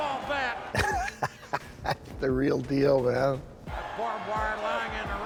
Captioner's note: laugh